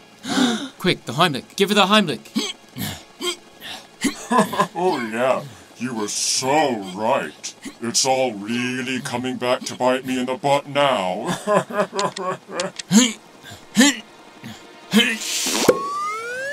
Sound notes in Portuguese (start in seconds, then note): 0.2 All suspiro; 2.7 Grunting; 4.1 Risos; 12.8 Grunting